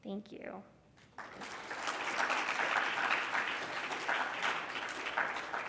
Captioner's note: congregation clapping